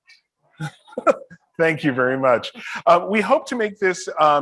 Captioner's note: laughs